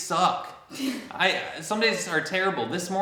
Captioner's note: chuckles